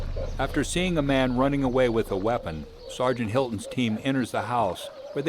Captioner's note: voiceover